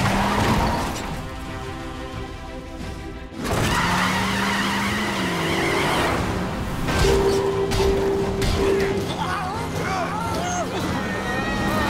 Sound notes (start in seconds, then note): 3.3 tires screeching